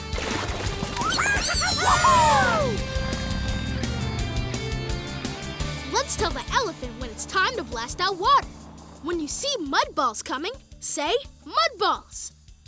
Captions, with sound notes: [cheering] Let's tell the elephant when it's time to blast out water. When you see mud balls coming, say "mud balls".